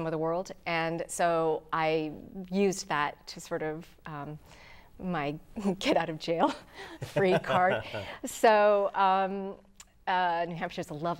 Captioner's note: laughing